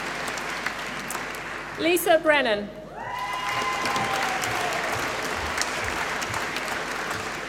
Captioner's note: applause